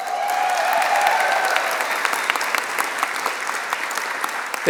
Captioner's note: applause